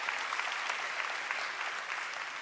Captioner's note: applause